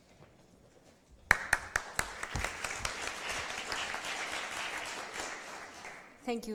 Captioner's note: applause